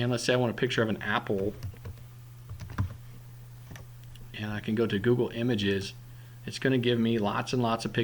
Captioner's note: typing